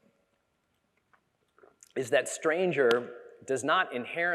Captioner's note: none